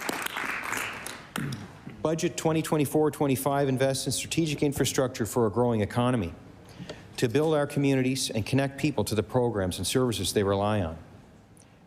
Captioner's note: applause